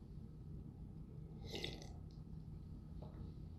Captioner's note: slurp